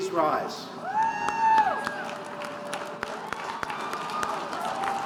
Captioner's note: audience applauding